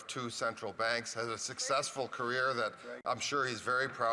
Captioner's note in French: voix de l'interprète